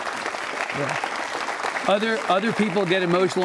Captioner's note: applause